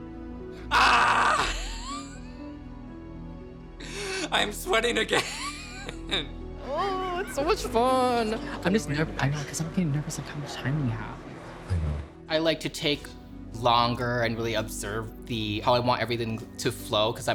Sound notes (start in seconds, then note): 1.5 chuckles; 9.3 faintly speaking